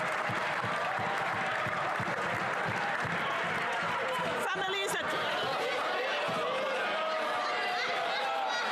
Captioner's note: some Applause